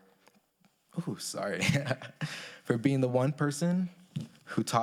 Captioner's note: chuckles